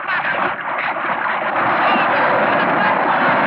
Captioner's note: yelling; splashing